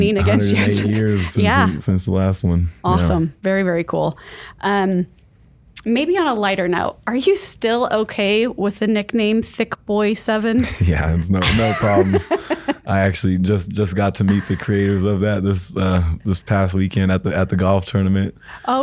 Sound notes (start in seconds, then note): 10.6 laughs